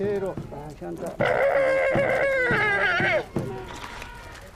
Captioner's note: speaking in foreign language; llama grunting